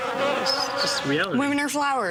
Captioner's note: buzzing